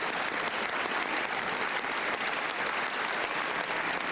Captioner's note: cheering